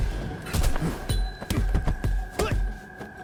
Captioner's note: grunting